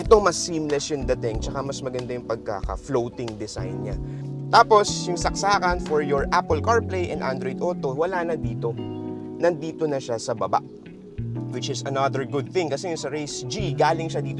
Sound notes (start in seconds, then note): none